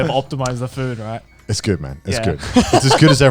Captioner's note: chuckling